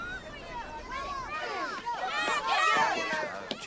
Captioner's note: all Shouting